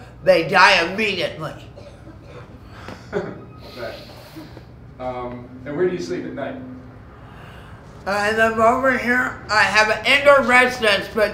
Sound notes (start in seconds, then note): 1.5 laughs